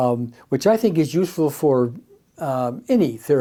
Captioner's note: none